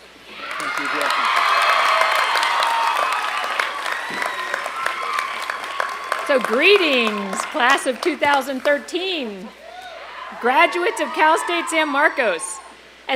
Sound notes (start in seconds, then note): 0.2 applause and cheering